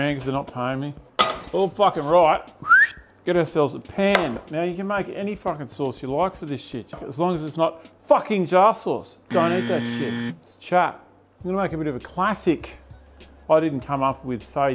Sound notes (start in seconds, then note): 2.6 whistles